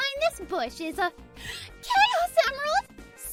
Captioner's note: gasp